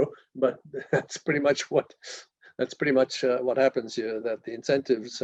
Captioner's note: laugh